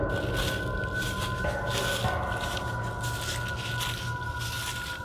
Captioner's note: dried leaves crackle